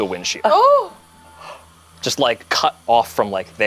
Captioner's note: gasps